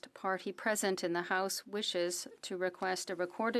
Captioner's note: speaking French